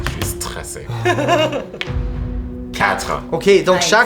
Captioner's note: laughs